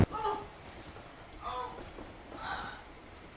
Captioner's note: woman moans